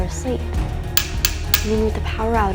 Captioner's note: metallic tapping